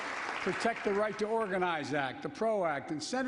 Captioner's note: applause